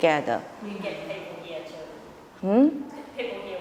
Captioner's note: audience member mumbling